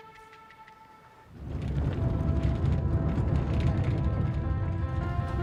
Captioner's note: van engine whirring; uplifting music